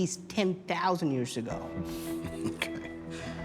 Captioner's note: chuckling